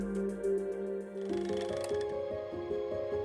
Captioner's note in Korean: 다이얼 소리